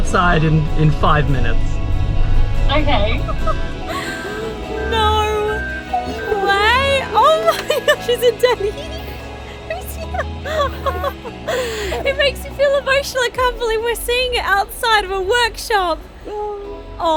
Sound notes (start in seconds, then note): 10.7 laughing